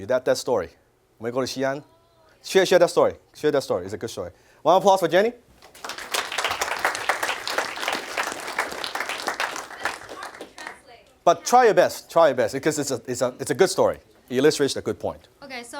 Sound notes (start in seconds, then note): 1.0 speaks Chinese; 5.5 applause